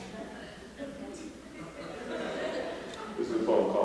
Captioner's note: laughter